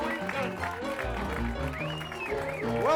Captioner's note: audience applauding and cheering; upbeat piano music